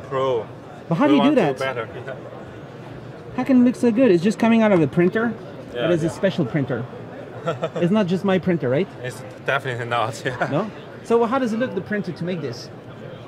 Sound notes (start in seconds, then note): 7.3 laughing